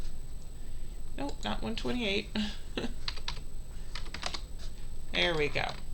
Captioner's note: laughs